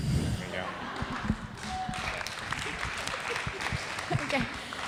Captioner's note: audience applauds